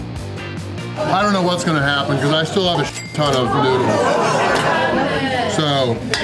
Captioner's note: shocked crowd noises